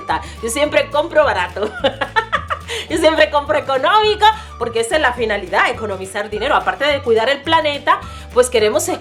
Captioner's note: laughs